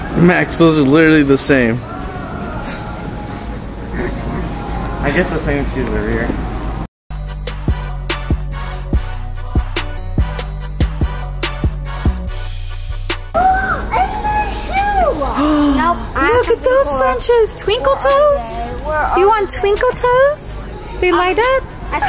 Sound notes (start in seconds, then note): 3.8 laughs; 7.2 techno music